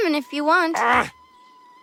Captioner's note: groans